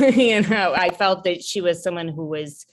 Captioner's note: laughing